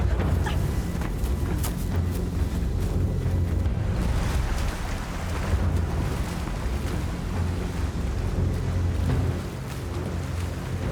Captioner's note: speaking in foreign language